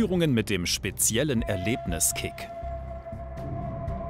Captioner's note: someone screams